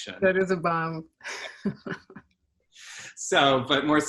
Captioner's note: laughter